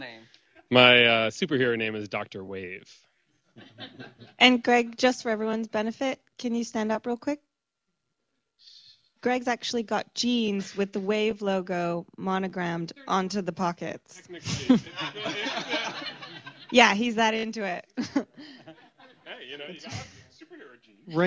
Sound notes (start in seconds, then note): 3.5 laughter; 8.0 pause; 14.3 laughter; 18.0 laughs